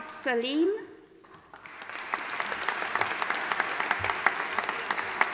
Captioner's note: audience applauding